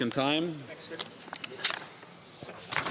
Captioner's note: speaking French